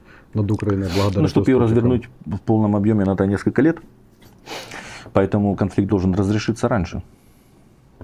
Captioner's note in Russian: фыркает